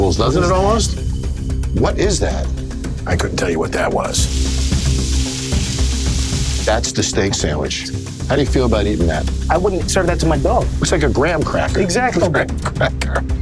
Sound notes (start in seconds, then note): 4.2 sizzling; 12.3 laughing